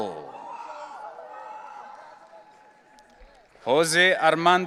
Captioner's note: audience cheering